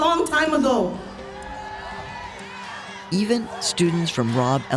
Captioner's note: audience cheering